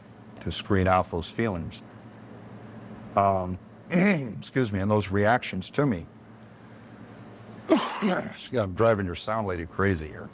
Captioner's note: coughs